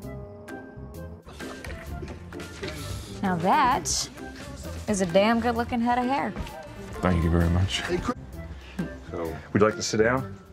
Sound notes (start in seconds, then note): none